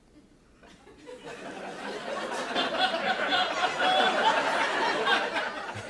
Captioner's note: laughter